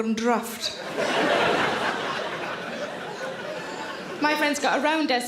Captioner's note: audience laughter